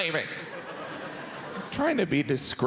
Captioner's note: audience laughs